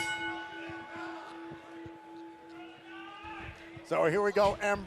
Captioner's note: bell ringing